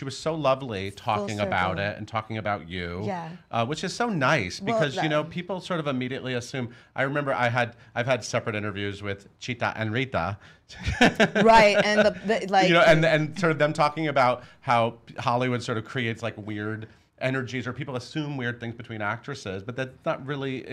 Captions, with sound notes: she was so lovely talking about it and talking about you. Which is so nice because people sort of immediately assume-- I remember I had, I've had separate interviews with Chita and Rita. (laughs) - Right and the-- - And them talking about how Hollywood creates sort of weird energies or people assume weird things between actresses but that's not really,